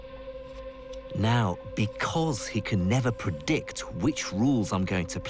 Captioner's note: voiceover